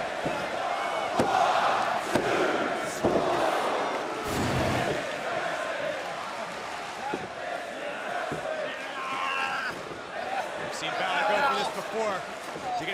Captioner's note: crowd chatter; crowd cheering